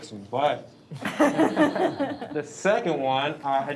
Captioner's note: board members laughing